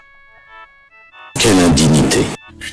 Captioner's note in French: Voix de N. Sarkozy saturée